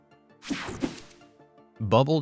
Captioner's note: screen whooshing